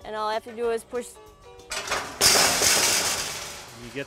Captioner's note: crash noise